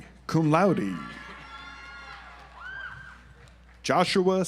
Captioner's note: audience applauds